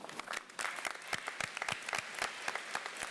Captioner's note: applause